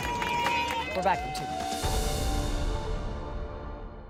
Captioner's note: applause